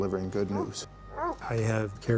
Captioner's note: barking